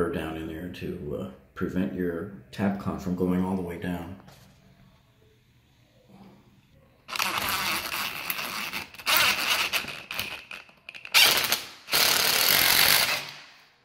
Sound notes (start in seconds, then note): 7.3 drill whirs